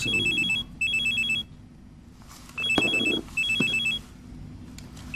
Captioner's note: phone ringing